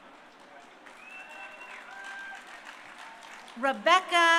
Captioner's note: crowd cheering